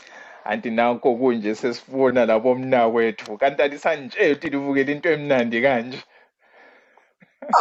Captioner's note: zulu language